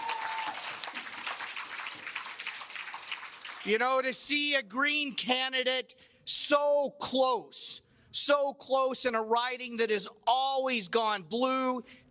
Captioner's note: cheers and applause